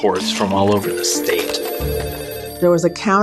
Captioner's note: phones ringing